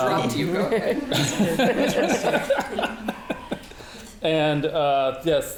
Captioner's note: audience laughing